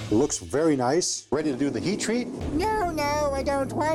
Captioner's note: high-pitched voice